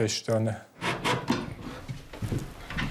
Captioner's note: screwdriver noises